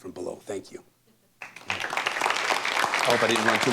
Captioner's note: applause